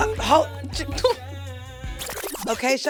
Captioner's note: stammering